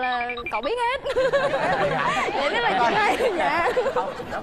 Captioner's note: laughing